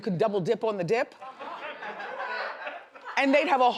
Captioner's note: audience laughs